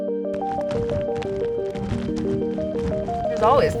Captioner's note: snow crackling